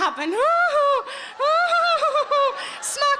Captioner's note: Sarah giggles